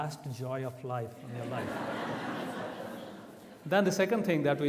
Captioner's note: audience laughs